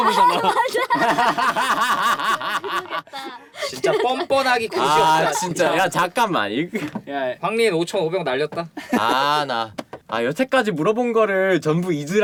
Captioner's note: laughter